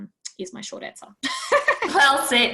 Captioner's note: laughs